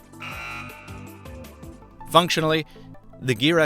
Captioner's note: buzzing